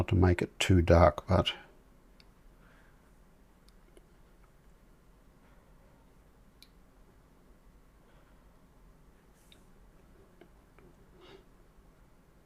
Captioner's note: silence